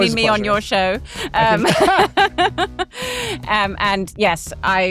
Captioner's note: chuckles